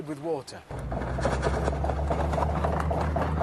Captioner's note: rattling